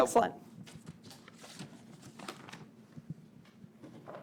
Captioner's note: papers rustling